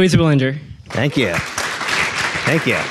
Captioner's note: audience applauding